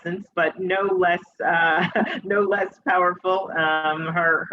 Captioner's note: chuckles